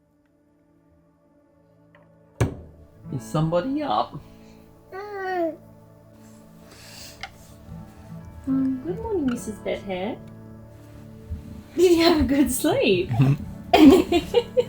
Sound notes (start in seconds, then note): 4.9 coos